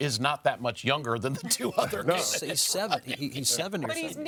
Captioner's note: laughs